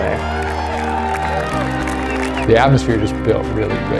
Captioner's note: cheers